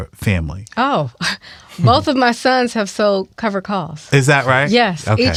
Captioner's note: chuckles